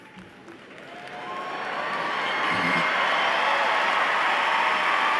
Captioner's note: cheers and applause